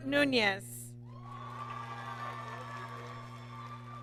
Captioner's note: applause